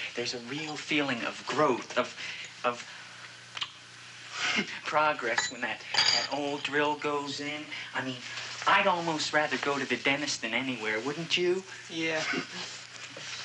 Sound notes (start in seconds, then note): 3.5 lips smacking; 4.4 chuckles